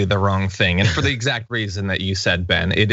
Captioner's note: laugh